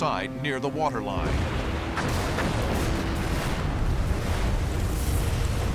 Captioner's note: explosions